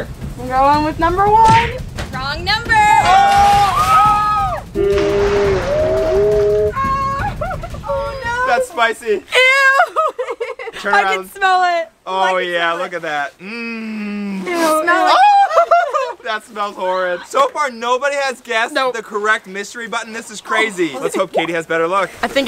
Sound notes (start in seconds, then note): 2.8 group screams; 9.2 laughs; 14.9 laughs